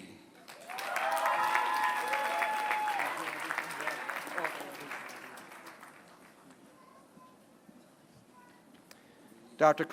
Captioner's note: applause